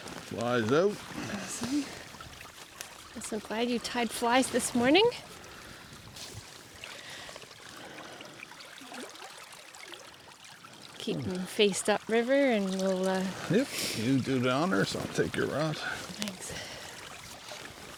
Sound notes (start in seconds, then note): 6.9 water dribbling; 16.7 laughing